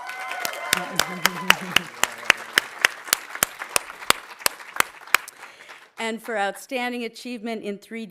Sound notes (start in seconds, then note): 0.0 audience cheering; 0.0 audience applauding